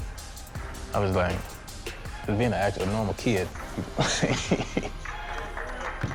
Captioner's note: laughing